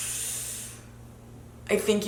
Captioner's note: hissing